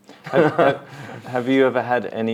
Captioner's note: both laughing